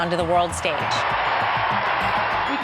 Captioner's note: cheers and applause